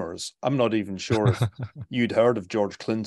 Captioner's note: laugh